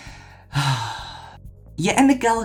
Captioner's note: sigh